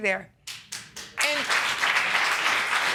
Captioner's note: clapping